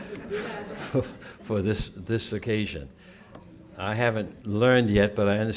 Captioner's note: laughter